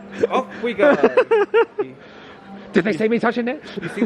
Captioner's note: laughing